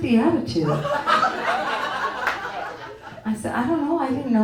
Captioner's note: audience tittering